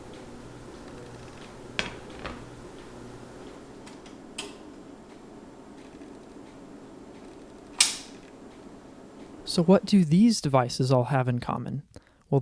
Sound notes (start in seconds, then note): 1.8 pan rattling; 4.3 oven thermostat clicks; 7.6 selector dial clicks loudly